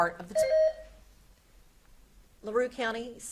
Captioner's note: beep buzzing